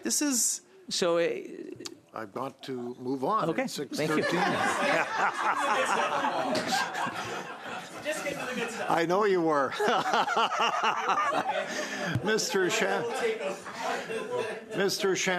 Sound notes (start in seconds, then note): 9.6 laughter